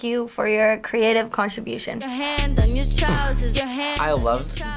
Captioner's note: laughs